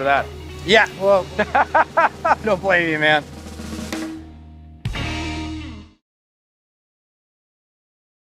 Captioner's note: laughs